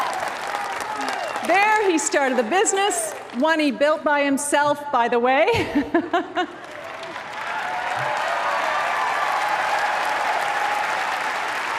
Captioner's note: applause; applause